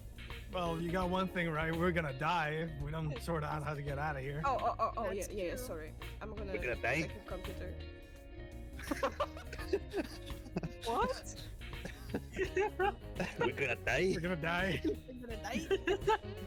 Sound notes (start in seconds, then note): 9.0 laughs; 15.5 laughs